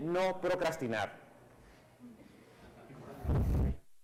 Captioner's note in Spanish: Clase ríe y murmura; Micrófono cruje